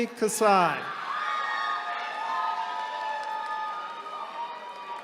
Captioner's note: attendees cheering